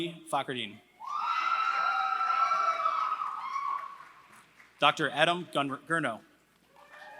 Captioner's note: applause; applause